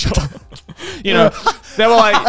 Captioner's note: all laughing